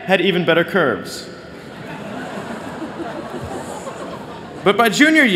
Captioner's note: laughter